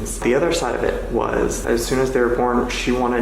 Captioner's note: none